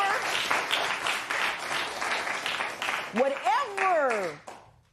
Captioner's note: applause